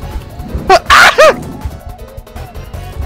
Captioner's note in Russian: крик